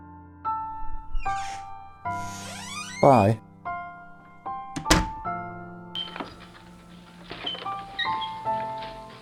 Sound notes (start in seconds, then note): 2.0 door opens; 4.4 door closes